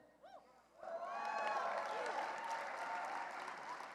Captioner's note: applause